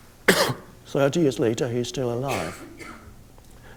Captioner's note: coughs